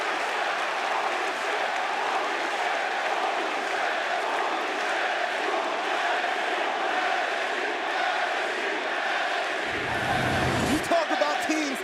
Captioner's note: crowd cheering